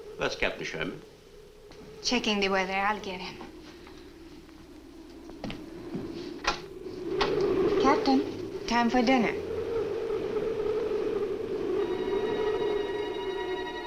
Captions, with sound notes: - Where's Captain Sherman? - Checking the weather. I'll get him. (wind howls) Captain? Time for dinner. (suspenseful orchestral music)